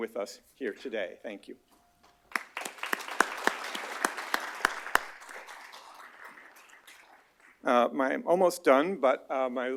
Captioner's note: applause